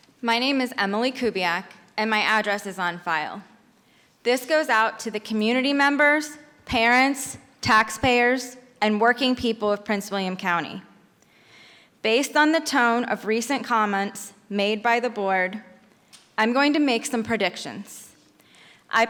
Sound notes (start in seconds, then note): none